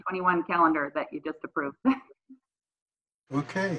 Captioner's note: chuckles